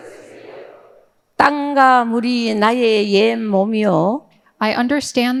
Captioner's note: speaking in foreign language